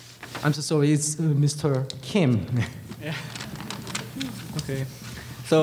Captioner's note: laughs